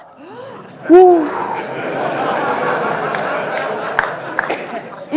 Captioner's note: gasps; audience laughing